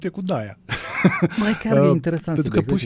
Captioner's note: laughter